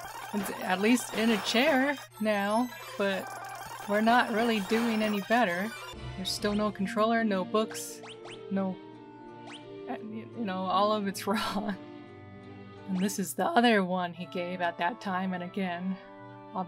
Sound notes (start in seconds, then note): 11.2 laughing